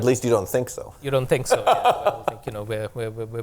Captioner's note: laughs